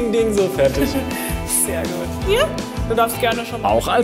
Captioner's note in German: Lachen